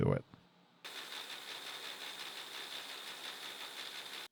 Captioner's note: machine whirring